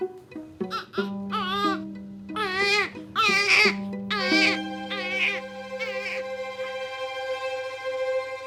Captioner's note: baby crying